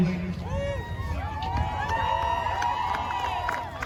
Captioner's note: crowd cheering; crowd applauding